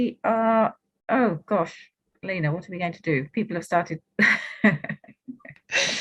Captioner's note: chuckles